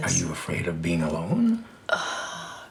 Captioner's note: Grace sighs